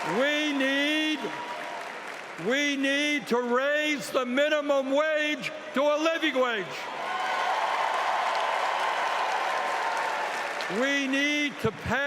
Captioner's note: cheering